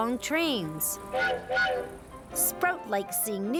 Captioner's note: train whistle blowing